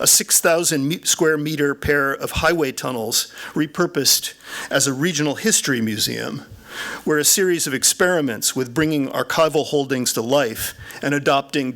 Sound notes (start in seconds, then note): none